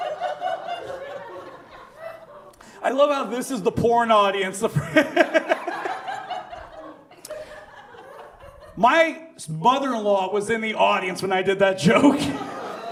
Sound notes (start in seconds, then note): 5.8 laughs